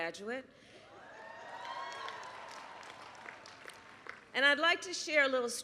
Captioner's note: applause